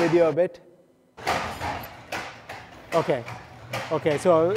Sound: feet clatter

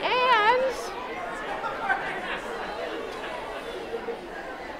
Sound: chattering

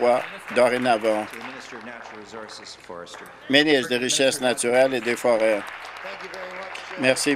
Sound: applause

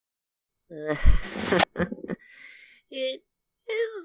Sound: chuckles shyly

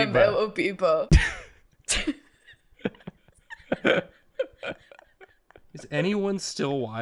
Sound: traumatised laughter

